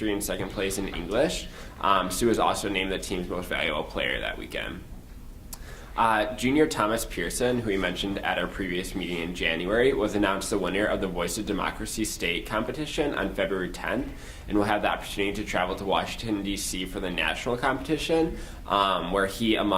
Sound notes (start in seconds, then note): none